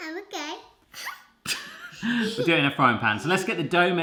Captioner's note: laughing; laughs